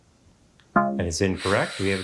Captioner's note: womp chimes